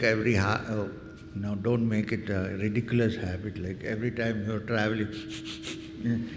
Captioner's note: exaggerated inhale